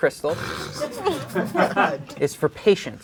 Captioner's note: crowd laughing